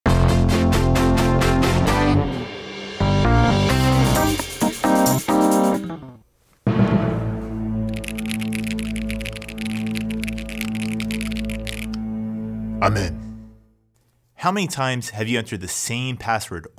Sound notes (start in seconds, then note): 7.9 keyboard clicking